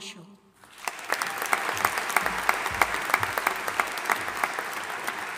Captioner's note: audience applauding